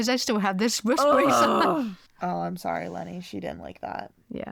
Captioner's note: groans